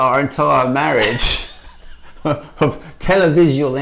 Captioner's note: laughing